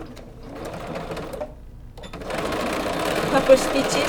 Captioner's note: sewing machine beeping